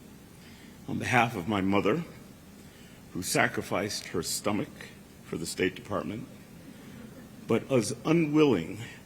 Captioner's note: laughter